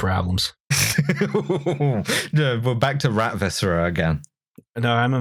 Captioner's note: laughter